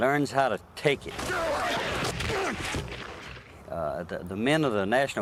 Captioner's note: grunting